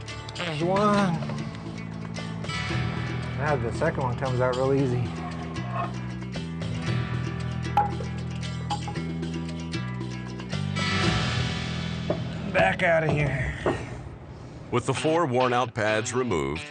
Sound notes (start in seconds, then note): 5.1 pad clanking